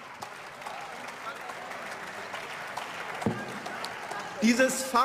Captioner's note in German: Beifall und Zwischenrufe